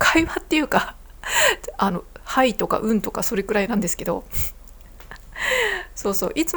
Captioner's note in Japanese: 笑い; 息をのむ音